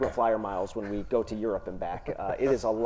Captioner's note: panelists chuckling